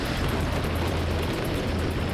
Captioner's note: strong wind whooshes